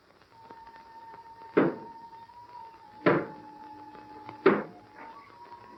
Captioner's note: knocking